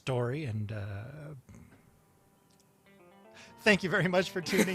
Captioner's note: trails off, both laugh